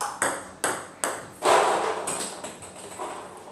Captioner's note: balls ping pong hitting